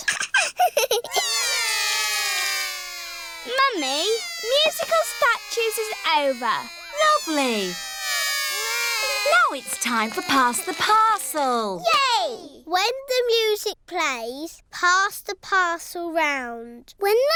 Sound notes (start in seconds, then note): 0.0 laughs; 1.3 all cry